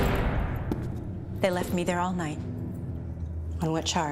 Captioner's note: jail cell door slamming shut